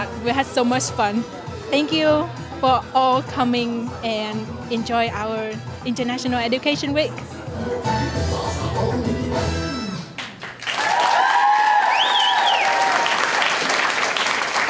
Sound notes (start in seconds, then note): 8.4 salsa music; 10.2 clapping